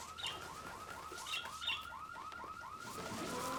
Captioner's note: alarm blaring